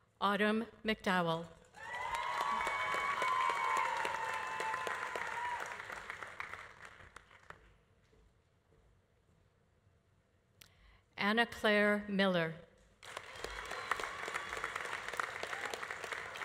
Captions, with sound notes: Autumn McDowell. (audience applauding) (audience cheering) Anna Clare Miller. (audience applauding)